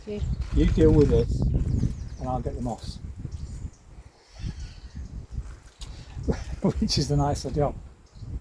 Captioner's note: laughs